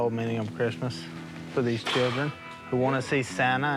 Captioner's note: blows raspberries